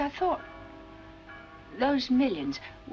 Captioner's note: church Bells